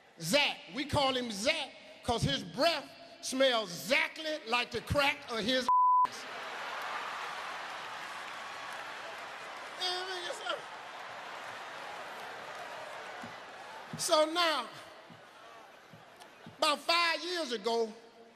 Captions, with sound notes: We call him Zact 'cause his breath smells 'zactly like the crack of his (beep). (audience laughs) So now 'bout five years ago,